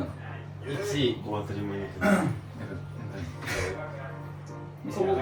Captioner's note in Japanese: 咳払い